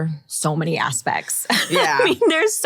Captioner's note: laughs